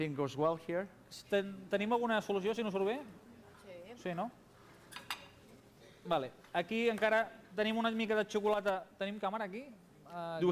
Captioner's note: non-english speech